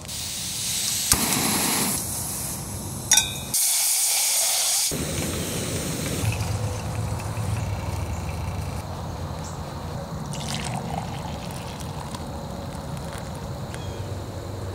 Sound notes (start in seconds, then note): 0.0 flames blowing; 0.3 gas hissing; 3.1 metal clanking; 3.4 flames blowing; 4.9 water pouring; 5.9 water boiling; 6.2 soft splashes; 8.4 coffee swirling; 10.2 coffee pouring